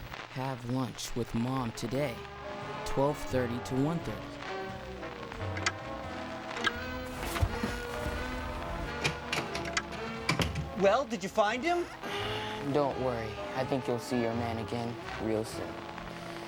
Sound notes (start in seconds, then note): 8.9 door opens, closes; 11.8 sighs